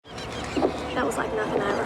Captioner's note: seagull calling